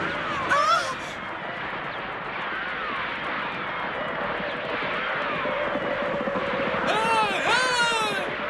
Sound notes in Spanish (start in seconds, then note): 0.5 disparos y gritos de indios